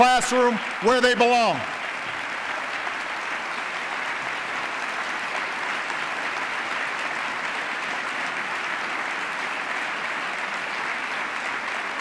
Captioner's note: applause